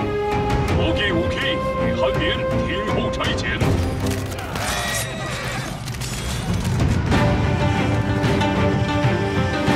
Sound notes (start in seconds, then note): 0.6 chinese language; 8.1 fast-paced music playing